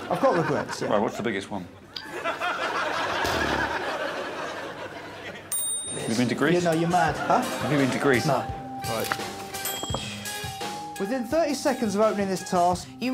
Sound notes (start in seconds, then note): 1.7 crowd laughs; 9.6 bell dings